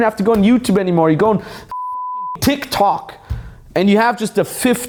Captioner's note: beep